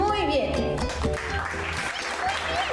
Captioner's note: applause